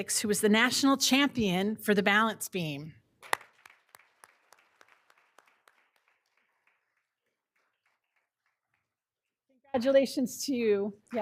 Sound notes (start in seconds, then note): 3.2 all applauding